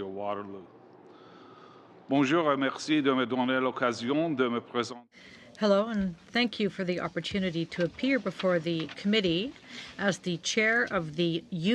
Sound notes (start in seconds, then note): 8.4 speaking French